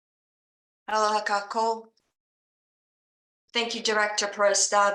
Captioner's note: speaking in foreign language